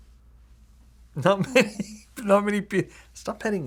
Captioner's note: laughing